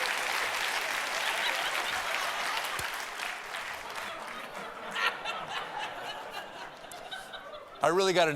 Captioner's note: cheers and applause